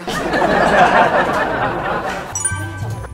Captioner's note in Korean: 폭소